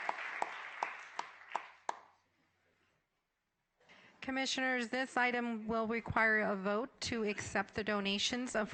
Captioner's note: applause